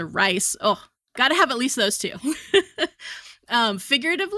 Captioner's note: chuckles